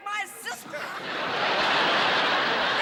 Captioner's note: laughter